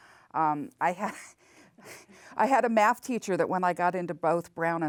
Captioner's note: laughs